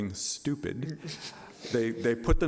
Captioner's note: laughing